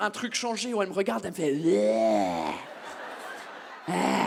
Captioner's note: drunken growl